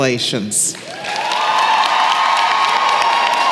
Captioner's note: applause